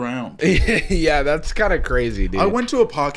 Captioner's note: laughing